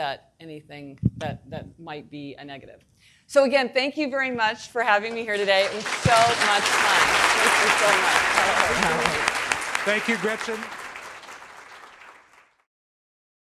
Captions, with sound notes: anything that, that might be a negative. So again, thank you very much for having me here today. It was so much fun. (audience applauding) - Thank you, Gretchen. (audience applauding)